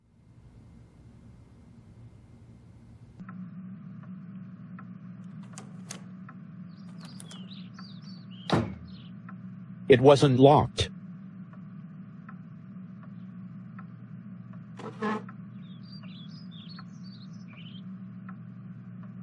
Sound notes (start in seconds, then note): 6.9 door opens and closes; 14.8 chair scrape